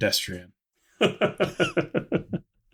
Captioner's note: laughs